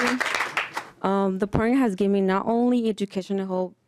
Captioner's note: applause